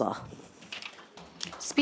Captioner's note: papers rustling